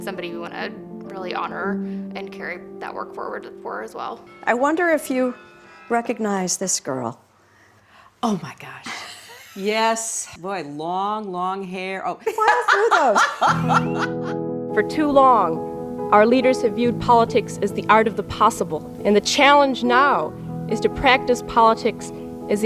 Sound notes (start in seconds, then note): 12.3 laughs